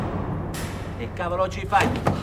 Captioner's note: speaking italian